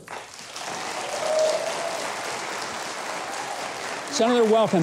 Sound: audience applauding

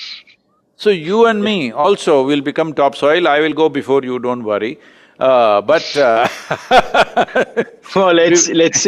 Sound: both laugh

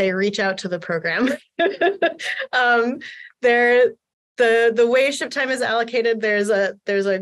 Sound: laughter

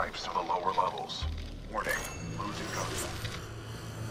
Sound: interference

